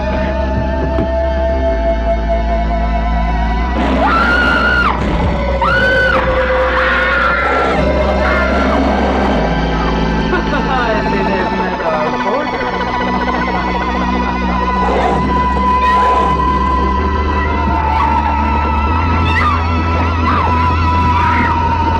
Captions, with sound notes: (ominous sci-fi music) (screams) (alien growls) - Ha ha ha, I see they have met our boarder. (laughs) (alien growls) (screaming)